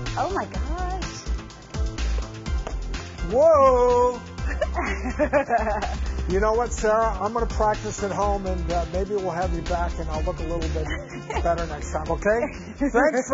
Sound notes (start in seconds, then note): 1.4 upbeat music; 4.4 chuckles